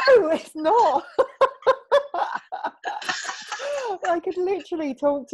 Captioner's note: both laughing